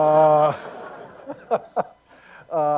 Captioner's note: laughter